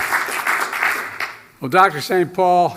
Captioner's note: applause